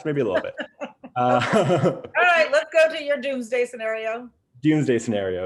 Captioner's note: laughs